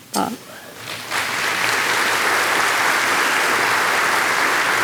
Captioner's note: audience applauding